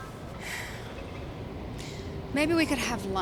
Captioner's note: sighs